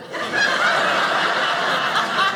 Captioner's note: audience laughing